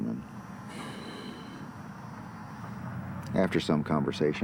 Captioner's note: exhales